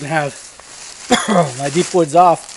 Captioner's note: coughs